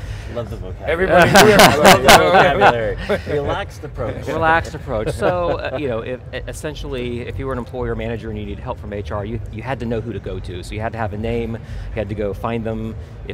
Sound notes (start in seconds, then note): 1.0 group laughing